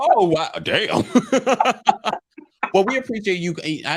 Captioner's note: laughing